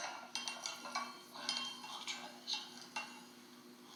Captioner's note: sound of spoon stirring tea and quiet conversation about tea in the background